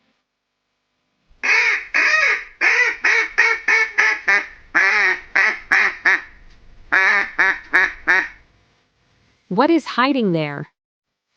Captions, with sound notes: [Animal Sound] What is hiding there?